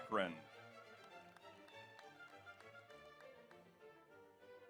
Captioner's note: audience applauds